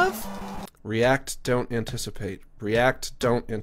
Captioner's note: normal voice